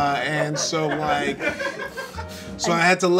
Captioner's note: people laughing